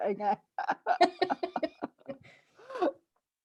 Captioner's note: laughter